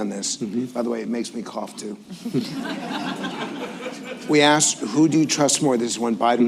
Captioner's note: laughter